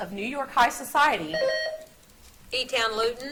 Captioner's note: buzzer beeps